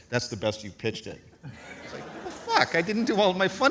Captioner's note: audience laughs